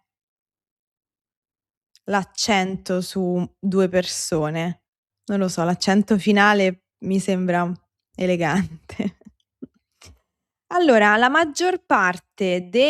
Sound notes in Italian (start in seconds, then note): 8.4 risate